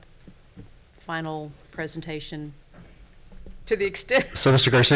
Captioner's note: laughs